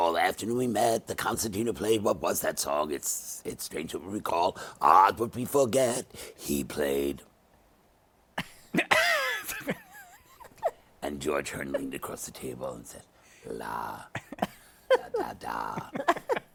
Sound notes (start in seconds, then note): 8.4 laughter